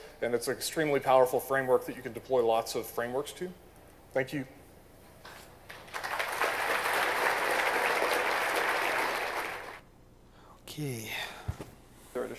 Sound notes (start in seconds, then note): 5.6 applause